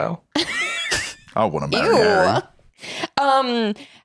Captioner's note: laughs